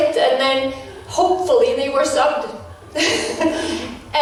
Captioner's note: laughs in flashback